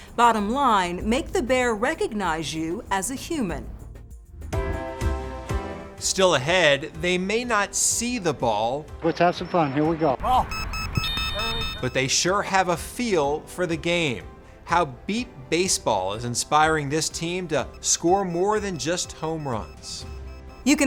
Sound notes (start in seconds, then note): 10.2 alarm beeping